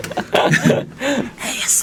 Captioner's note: laughing